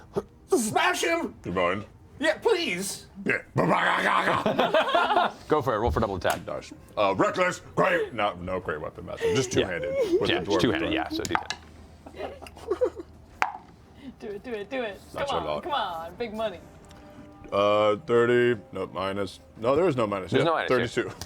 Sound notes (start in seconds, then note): 2.2 rage noises